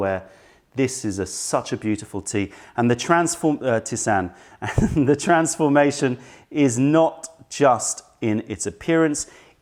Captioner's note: laughter